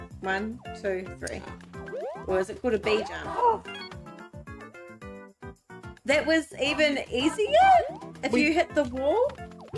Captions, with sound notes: 1, 2, 3. Or is it called a "B" jump? [Both gasp excitedly] That was even easier, if you hit the wall?